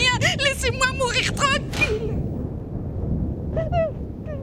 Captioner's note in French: Sanglots